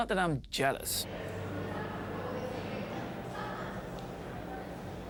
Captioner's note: chaotic chatter